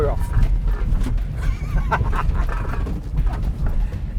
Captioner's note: laughs